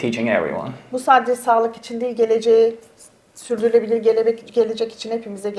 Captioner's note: speaks in Turkish